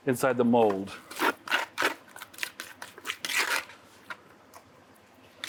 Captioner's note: spatula scraping